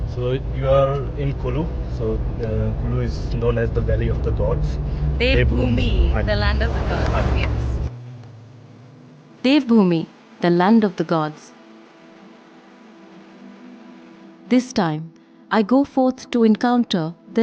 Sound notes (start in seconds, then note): 7.2 car engine revving; 8.0 gentle music; 11.6 gentle music